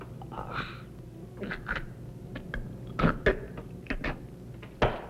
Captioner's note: gurgling